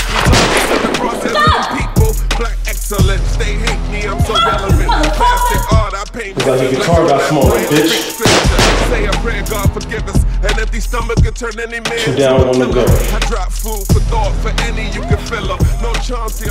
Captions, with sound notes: - FUCK! Fuck you motherfucker! - Look like your guitar got smaller bitch (two gunshots) Two down, one to go.